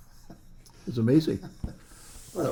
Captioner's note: laughs